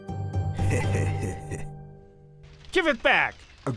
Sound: chuckle

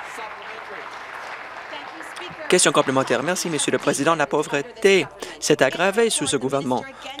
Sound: applause

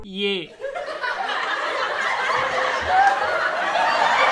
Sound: extreme hysteric laughter in the background

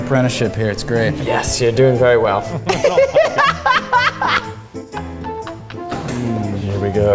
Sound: laughs

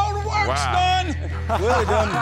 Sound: laughter

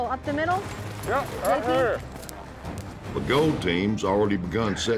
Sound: none

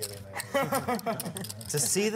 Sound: laughs

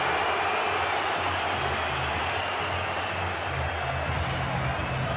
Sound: cheers and applause; upbeat music playing

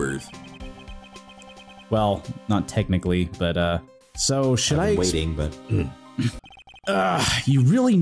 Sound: clears throat

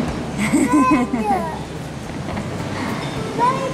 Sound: mom laughing

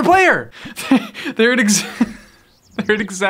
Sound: laughs

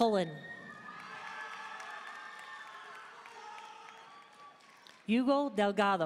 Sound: audience cheering and applauding

